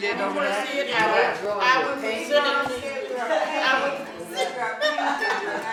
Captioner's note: laughing